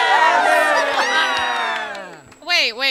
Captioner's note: Merry Men cheer triumphantly